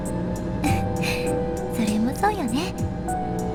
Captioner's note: giggle